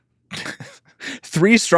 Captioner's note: laugh